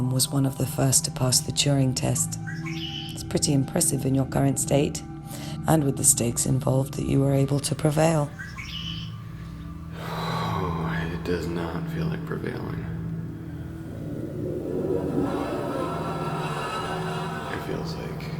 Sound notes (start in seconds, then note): 9.9 sigh